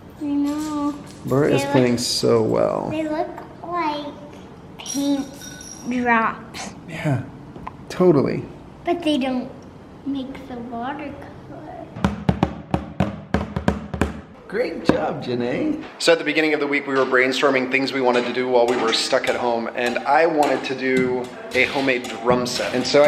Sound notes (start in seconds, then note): 12.0 utensils beat